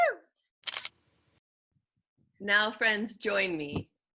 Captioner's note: camera clicking